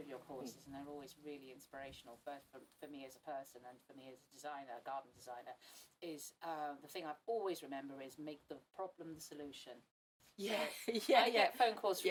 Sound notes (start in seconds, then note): 10.2 laughs